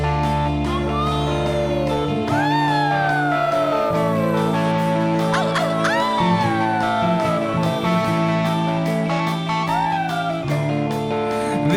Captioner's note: howling